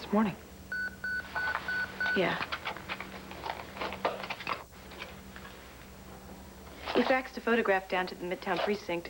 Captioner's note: beeper sounds